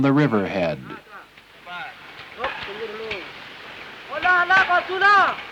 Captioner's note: chatter, metal clacking